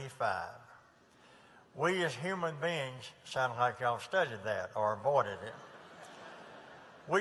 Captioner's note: laughter